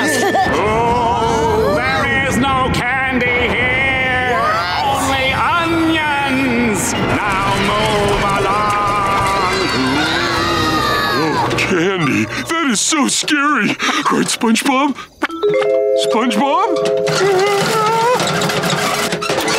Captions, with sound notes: [groaning] There is no candy here! What? Only onions! Now move along! [screaming] No candy, that is so scary! Right SpongeBob? SpongeBob? [wincing]